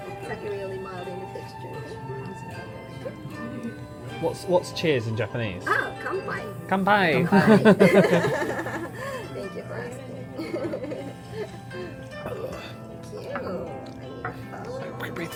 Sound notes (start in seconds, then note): 8.5 laughs; 10.3 giggles